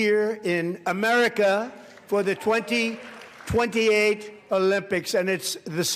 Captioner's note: applause